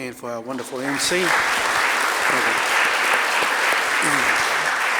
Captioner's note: audience applauding